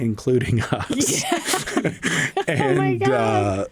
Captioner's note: laughter